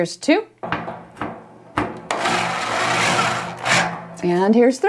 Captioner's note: machine whirring